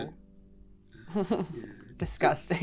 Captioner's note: chuckles